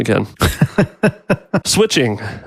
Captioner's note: laughs